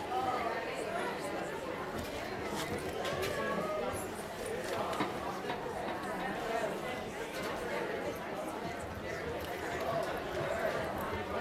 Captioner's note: audience chattering